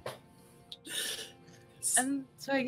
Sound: laughter

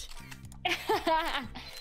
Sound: laughs

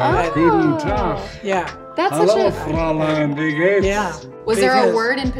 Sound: speaks German

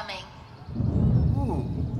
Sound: thunder Rumbling

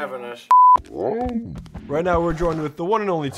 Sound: groans

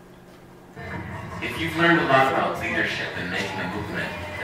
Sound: voiceover

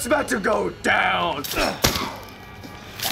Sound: Ethan grunts

